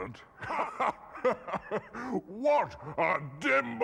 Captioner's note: laughing